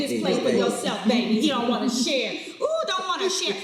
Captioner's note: laughing